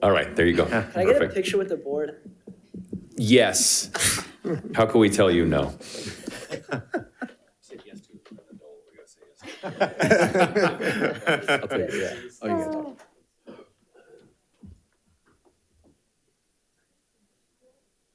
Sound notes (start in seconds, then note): 5.9 participants laughing; 7.6 participants chattering off microphone; 9.4 participants laughing; 12.4 participants chattering off microphone